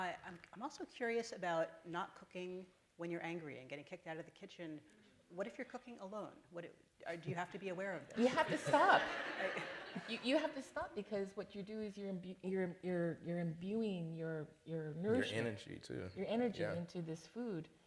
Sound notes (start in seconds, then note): 8.1 laughter